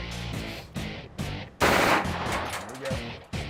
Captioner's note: rapid gunfire